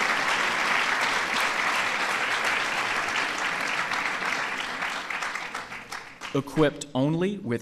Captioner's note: applause